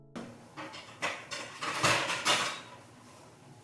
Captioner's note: cling clang